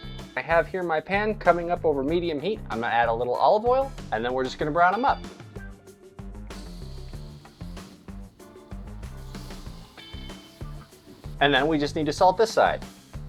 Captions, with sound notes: I have here my pan coming up over medium heat. I'm gonna add a little olive oil and then we're just gonna brown them up. (sizzling) (sizzling) (sizzling) And then we just need to salt this side.